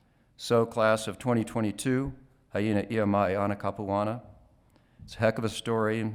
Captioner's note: speaking Hawaiian